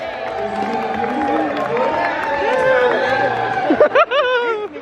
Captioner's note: people cheering; chuckles